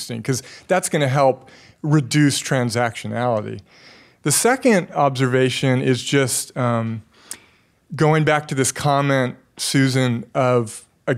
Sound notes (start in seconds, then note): none